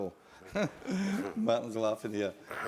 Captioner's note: laugh